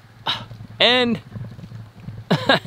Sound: laughs

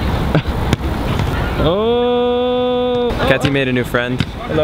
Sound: chuckles

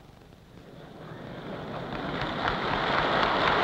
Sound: applause

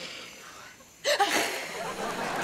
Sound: sighing; hissing

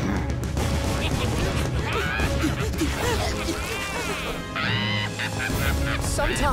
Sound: laughing

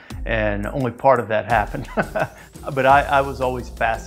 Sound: laughs

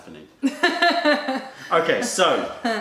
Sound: laughter

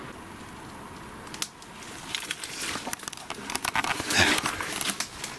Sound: twigs cracking

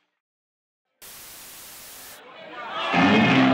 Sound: static noise

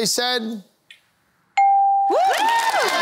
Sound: cheering

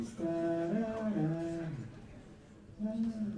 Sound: humming

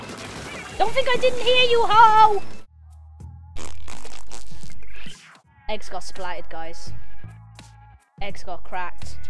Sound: raspberry

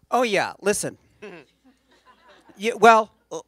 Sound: laughter

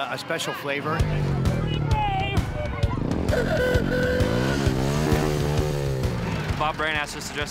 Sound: motorcycle revs

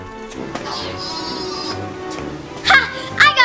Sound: sheep bleats

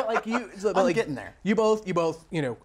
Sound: laughs

